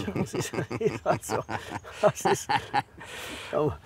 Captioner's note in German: lacht